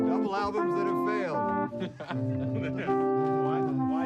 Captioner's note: laughs